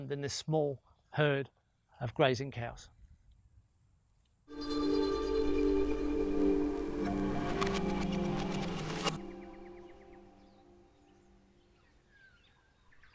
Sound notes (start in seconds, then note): 4.5 suspenseful music; 9.3 birds tweeting